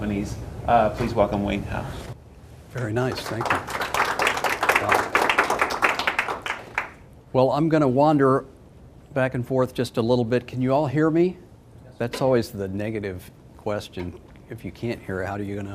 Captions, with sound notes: MEDIUM, AND SMALL COMPANIES. PLEASE WELCOME WAYNE HOWE. >> VERY NICE, THANK YOU. [ APPLAUSE ] >> WELL I'M GOING TO WANDER BACK AND FORTH JUST A LITTLE BIT. CAN YOU ALL HEAR ME? THAT'S ALWAYS THE NEGATIVE QUESTION